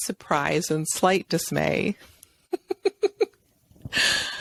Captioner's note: chuckles